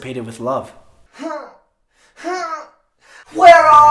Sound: grunting

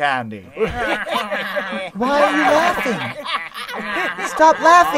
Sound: laughter

